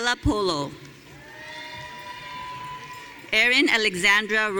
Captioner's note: audience cheering